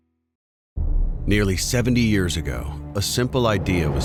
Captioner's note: voiceover